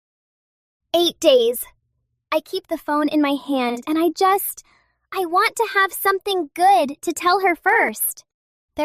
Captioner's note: breath